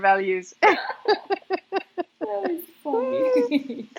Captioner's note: both laugh